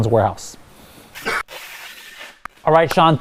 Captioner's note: tape seals